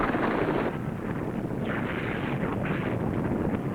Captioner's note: volcano rumbling